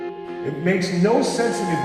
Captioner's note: echoing